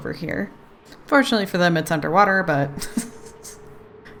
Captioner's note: laughs